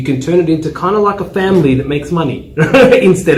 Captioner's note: laugh